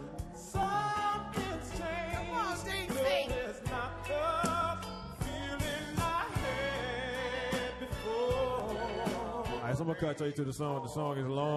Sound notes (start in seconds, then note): 2.6 laughs